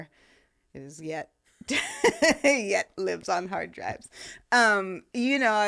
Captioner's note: laughing